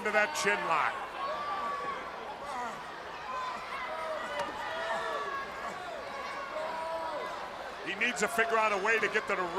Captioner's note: crowd chatter